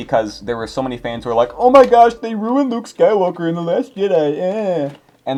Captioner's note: mocking noise